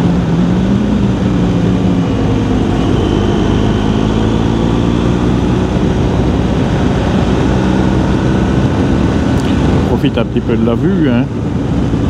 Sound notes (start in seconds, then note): 9.9 engine